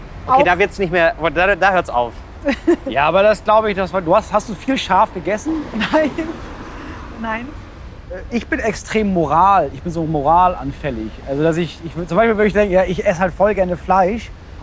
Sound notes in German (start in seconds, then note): 2.4 lacht kurz; 5.5 weiterhin lachend